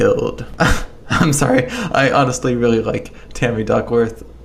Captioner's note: laughs